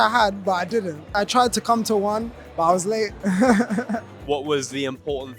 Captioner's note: laughs